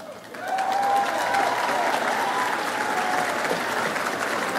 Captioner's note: audience applauds